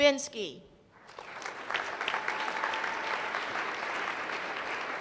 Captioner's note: applause